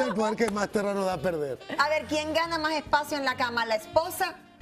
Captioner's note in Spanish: risas